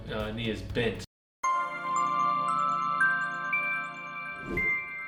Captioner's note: chiming bells